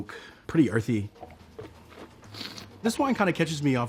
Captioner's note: slurps and swishes wine